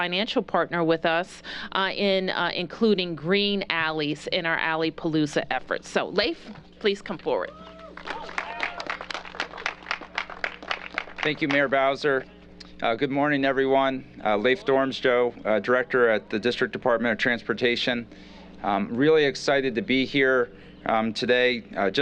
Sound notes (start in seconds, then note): 7.9 applause